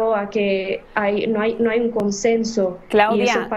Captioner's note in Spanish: habla en ingés